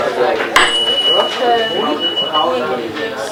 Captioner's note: rings tuning fork